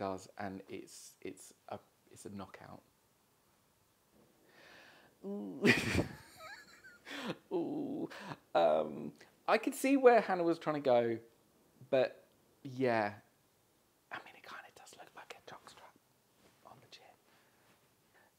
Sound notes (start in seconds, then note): 14.0 whispers